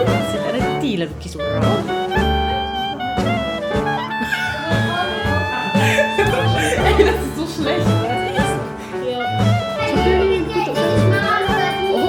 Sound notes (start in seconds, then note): 4.2 laugh; 4.2 speaking German